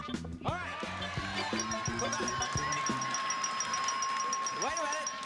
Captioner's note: bell dinging